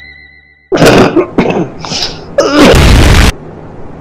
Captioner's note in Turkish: öksürük